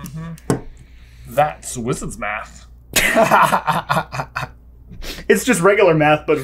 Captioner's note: laughter